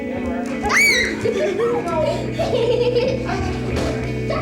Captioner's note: shrieks and giggles